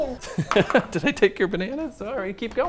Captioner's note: laughs